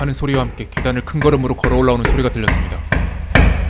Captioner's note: heavy footsteps could be heard walking up the stairs